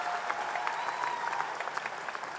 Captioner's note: applause